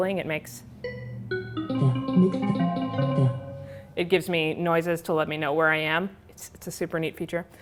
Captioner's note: rising and falling tones